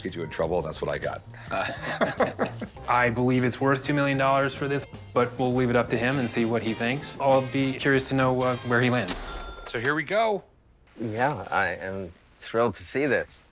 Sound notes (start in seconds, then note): 1.4 laughter